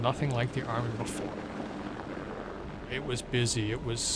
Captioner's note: helicopter propellers chop